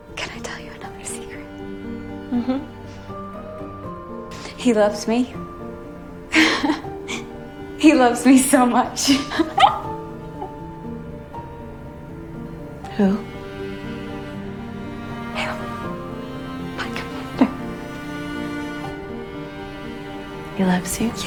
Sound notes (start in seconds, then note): 0.4 voiceover; 6.4 Janine laughs; 9.1 Janine laughs louder; 15.4 whispering